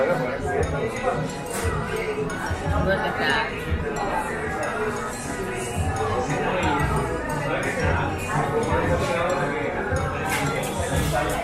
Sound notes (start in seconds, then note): 5.4 people chattering